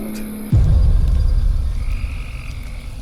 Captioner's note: crickets; dramatic music